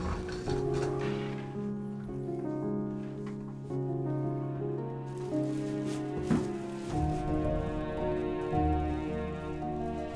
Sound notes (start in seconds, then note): 5.1 rustling